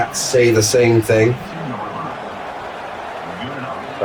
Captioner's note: crowd Noises